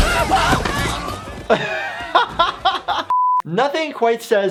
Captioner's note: laughing